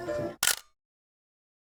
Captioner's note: camera clicks